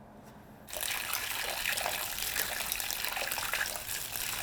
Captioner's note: water trickling